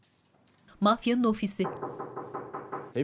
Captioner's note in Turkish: Kapı vurulma sesi